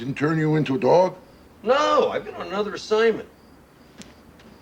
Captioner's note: crowd yelling